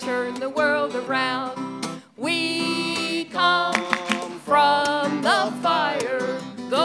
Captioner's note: clap, clap, clap